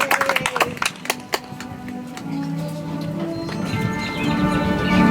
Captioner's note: audience applauds